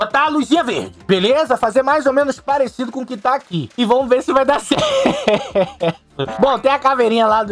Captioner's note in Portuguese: Riso